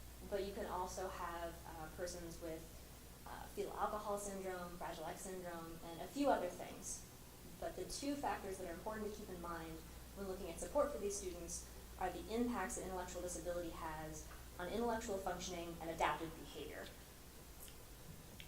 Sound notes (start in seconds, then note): none